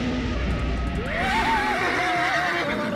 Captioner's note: screaming; creature roaring